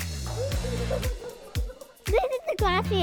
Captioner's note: kids laughter